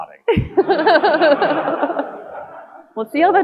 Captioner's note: audience laughing